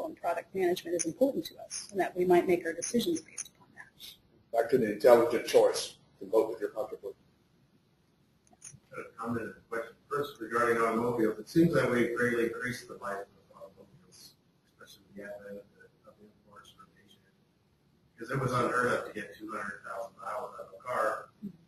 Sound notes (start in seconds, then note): 13.5 faintly speaks